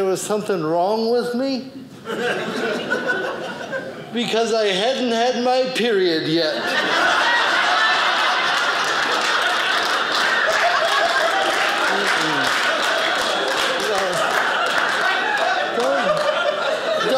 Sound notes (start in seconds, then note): 7.3 audience laughing; 11.3 audience applauding